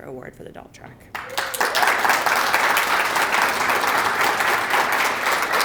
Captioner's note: applause